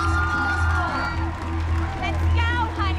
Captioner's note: cheering